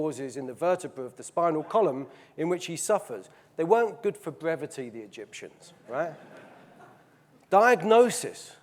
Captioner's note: audience laughing